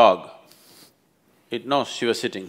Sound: sniffs

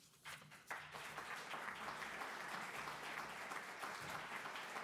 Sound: audience applauding

